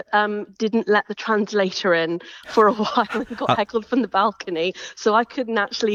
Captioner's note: chuckles